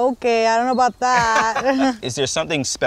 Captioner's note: all laugh